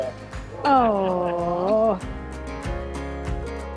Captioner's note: awing; bright guitar music